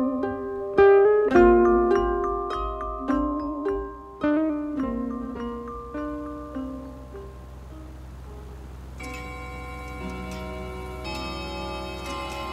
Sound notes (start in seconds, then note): 8.9 clock chiming